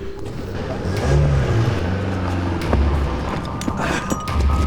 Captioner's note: car rumbling; rapid tense music